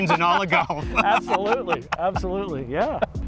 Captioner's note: man laughing